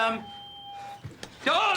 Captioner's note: staticky feedback